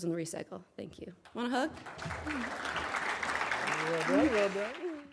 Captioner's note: audience applauds